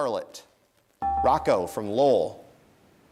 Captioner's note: dinging